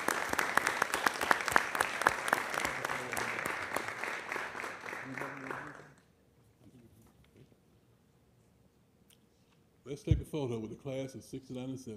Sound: applause

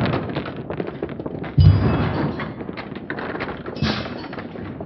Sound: slow-mo MMX sounds continues

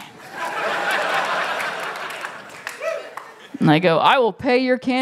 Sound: laughter

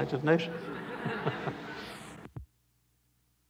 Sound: laughter

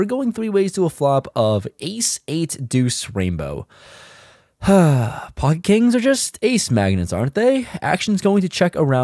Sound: sigh

